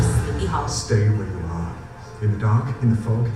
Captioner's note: voiceover